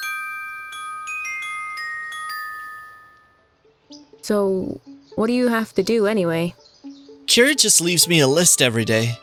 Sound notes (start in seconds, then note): 3.5 birds chirpping